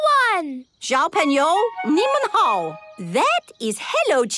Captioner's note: speaking Chinese